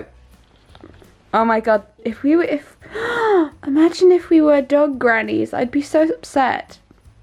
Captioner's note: gasps